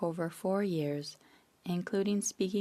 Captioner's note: speaking French